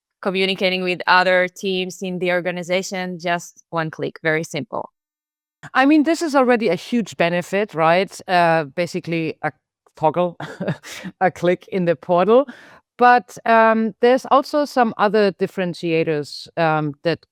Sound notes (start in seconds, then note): 10.4 chuckles